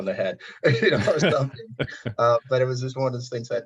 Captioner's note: chuckling